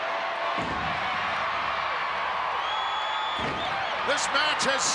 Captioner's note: crowd cheering